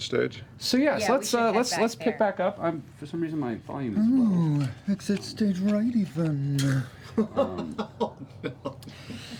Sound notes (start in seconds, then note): 4.7 Snagglepuss voice; 6.9 laughs